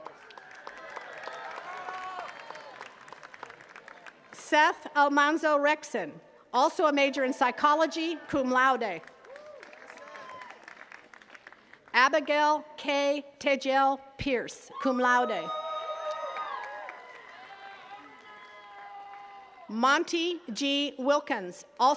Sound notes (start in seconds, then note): 0.0 attendees cheering and clapping; 9.0 attendees cheering and clapping; 15.3 attendees cheering and clapping